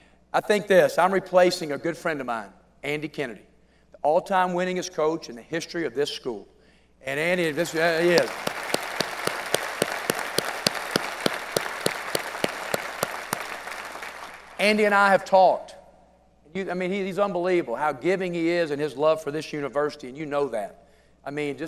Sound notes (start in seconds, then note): 7.2 applause